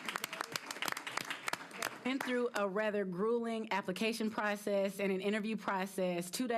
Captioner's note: applause